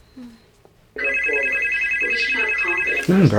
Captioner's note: phone ringing